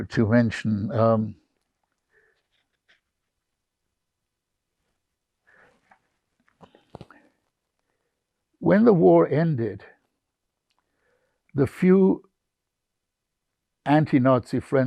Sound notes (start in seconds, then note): 0.0 pauses 8 seconds